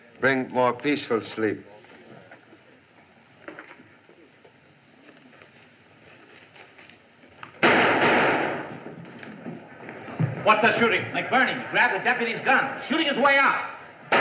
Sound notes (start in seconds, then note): 7.6 gunshots